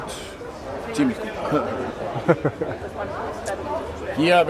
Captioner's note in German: lachen